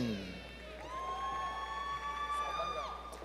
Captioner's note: applause